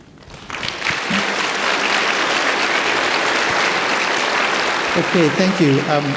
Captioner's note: audience applauding